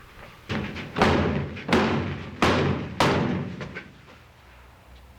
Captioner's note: thump thump thump thump